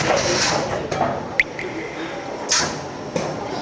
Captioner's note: plop